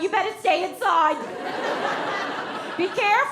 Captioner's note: audience laughs